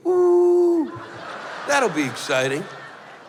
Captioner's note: laughter